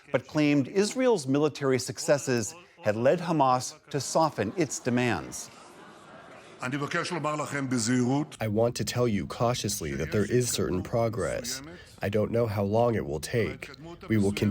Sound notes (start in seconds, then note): 8.9 through translator